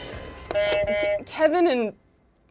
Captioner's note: buzzer buzzes